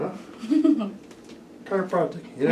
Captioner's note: patient laughs